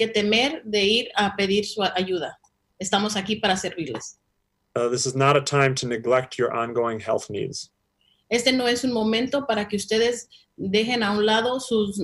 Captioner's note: speaking spanish